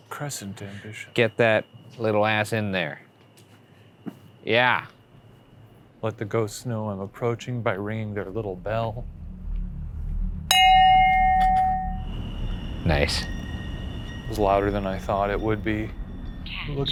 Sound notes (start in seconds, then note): 10.5 bell rings